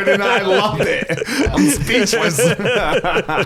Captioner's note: laughs